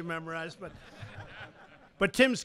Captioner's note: laughter